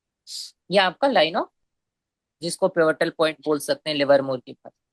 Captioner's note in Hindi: नाक से की जाने वाली आवाज़